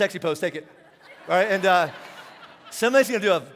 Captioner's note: congregation laughing